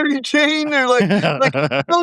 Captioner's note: laughing